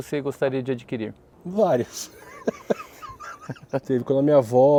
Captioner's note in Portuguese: risos